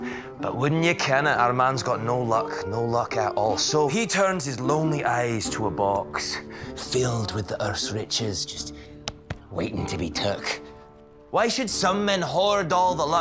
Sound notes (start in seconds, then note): none